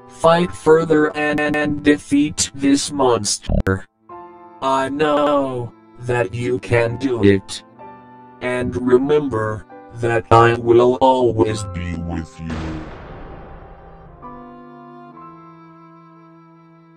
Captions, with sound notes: Fight further an-an-and defeat this monst-er. I k-k-know that you can do it And remember that I will always be with you... (voice dying)